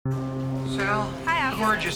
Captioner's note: distant ship's horn blows